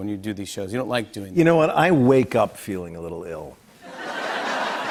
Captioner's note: laughter